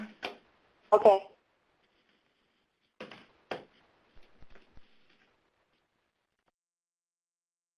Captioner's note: pat